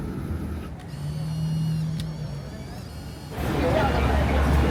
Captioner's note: camera whirs